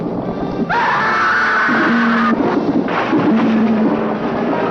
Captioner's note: scream